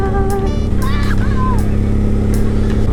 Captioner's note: excited child